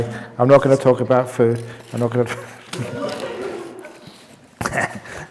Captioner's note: laughter